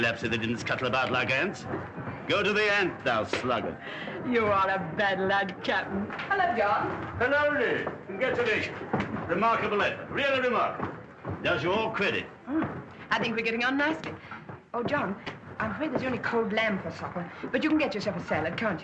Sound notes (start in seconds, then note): 3.5 spanks